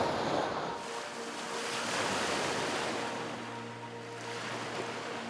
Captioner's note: waves crashing; gentle music